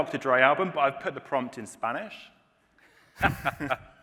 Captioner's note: laughter